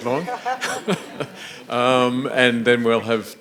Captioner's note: audience laughing